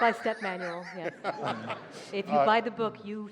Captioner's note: laughter